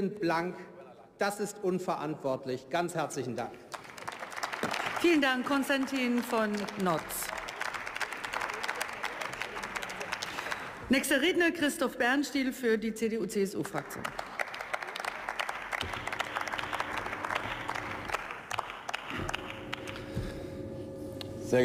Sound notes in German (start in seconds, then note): 3.6 Beifall; 15.6 Beifall